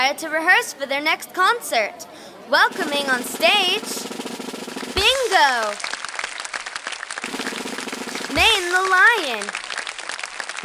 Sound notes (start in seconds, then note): 2.6 drumroll; 5.1 audience applauding; 7.1 drumroll